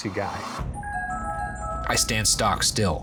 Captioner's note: ringtone plays